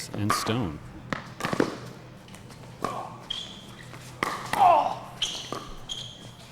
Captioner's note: shoes squeaking; ball being hit